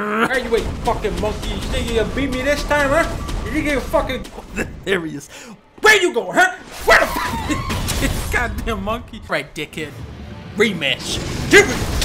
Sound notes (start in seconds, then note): 4.2 chuckle; 7.0 laughs